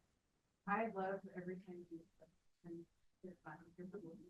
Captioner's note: speaking faintly; speaks faintly